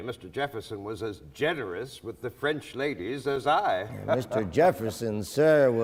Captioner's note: laughs